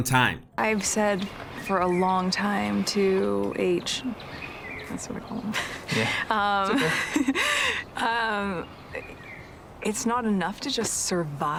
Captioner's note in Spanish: risas